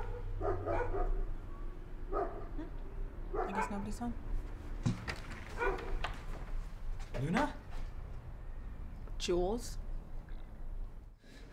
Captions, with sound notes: - Is this Millwood? - I'm scared. - ( knocking ) - ( dogs barking ) Hm, I guess nobody's home.